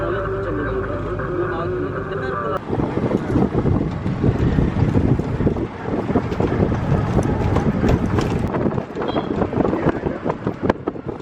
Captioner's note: sound of wind